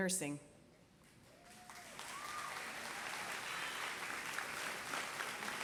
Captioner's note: applause